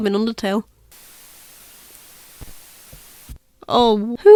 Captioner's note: Static